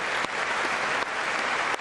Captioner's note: applause